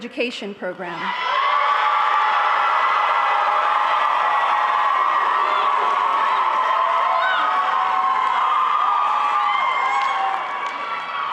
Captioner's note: applause and music